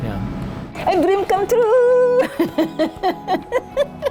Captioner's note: laughing